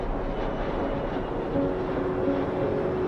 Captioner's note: dramatic music; airplane sound